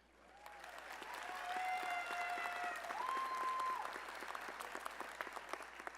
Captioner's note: applause